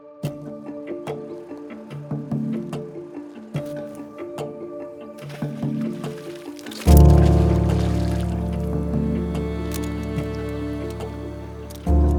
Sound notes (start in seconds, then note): 4.9 water splashing; 8.8 gentle upbeat music